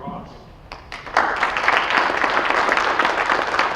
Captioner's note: applause